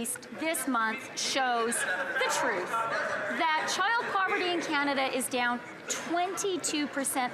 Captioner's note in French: voix de l'interprète